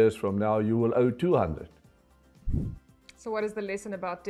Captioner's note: air whooshing